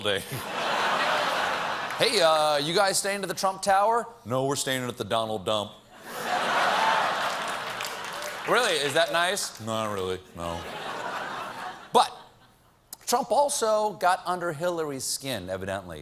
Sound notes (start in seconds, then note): 4.3 applause; 4.3 laughter